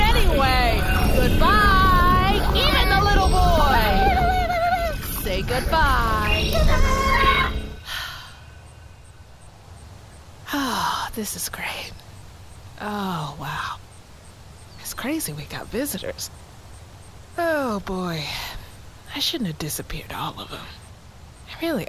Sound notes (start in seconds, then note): 5.2 Theo whimpers; 11.4 contemplatively talking to herself